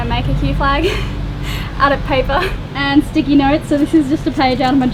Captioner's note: laughing